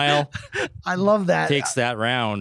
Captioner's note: laughing